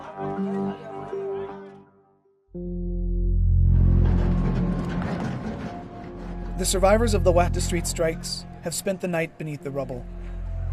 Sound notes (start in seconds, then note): none